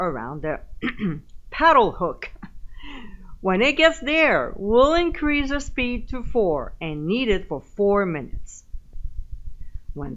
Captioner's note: giggle